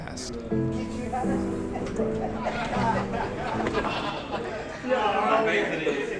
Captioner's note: incoherent people, excited